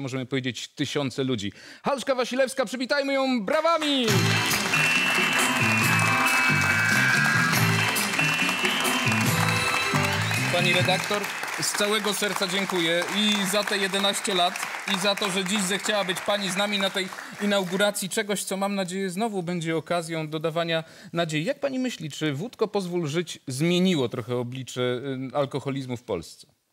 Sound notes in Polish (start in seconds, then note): 4.8 Aplauz